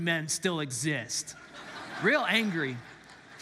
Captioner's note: congregants laugh